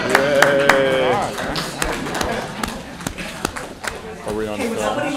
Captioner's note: applause